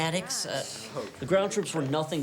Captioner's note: students grumble